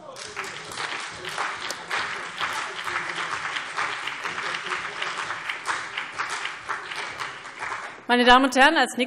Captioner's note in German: Beifall CDU und BÜNDNIS 90/DIE GRÜNEN